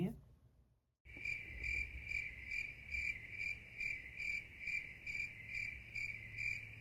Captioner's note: crickets chirp